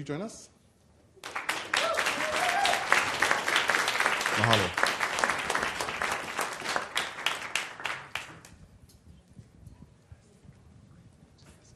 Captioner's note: applause